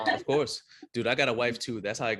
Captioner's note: laughing